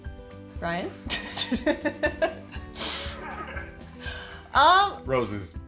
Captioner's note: laughter